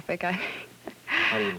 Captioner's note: nervous laughter